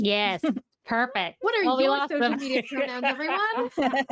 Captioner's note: all laughing